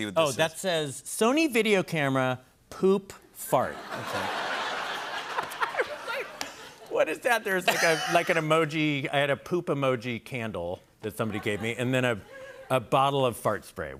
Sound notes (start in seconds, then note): 3.7 laughter